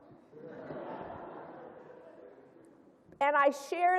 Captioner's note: laughter